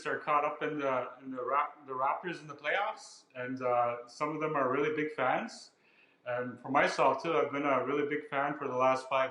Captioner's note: speaking ojibway